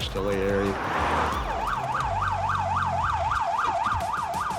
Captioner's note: sirens